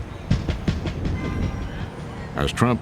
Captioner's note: din of traffic